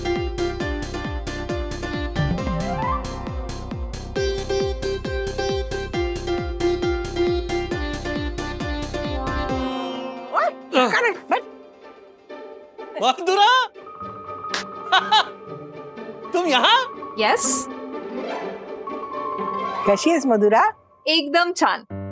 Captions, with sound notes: Hey. Sit down. Madhura. (laughs) - You are here? - Yes. - How are you, Madhura? - Absolutely fine.